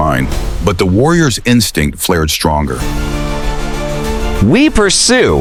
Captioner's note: resolute, commanding